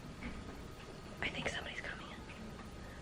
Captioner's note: whispering